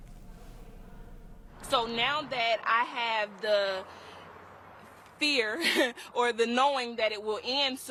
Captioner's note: laughs